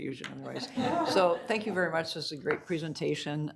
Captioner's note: all laughing